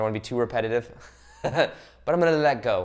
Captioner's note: laughs